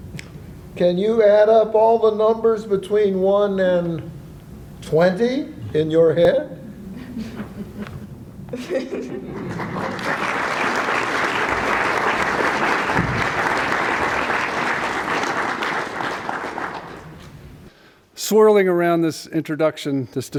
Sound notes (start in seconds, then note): 9.4 applause